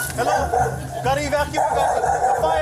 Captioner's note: dogs barking